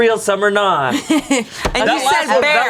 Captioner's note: laughs